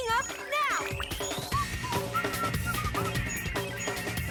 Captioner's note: dad whistles